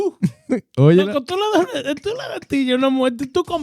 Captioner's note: speaking In Foreign Language